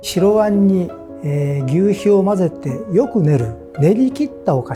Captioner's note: speaking in foreign language